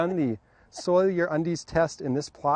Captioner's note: laughs